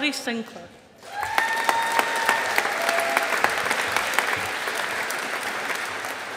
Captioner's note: audience applauding